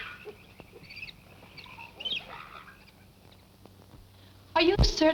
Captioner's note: birds chirp